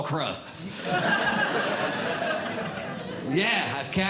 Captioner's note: audience Laughing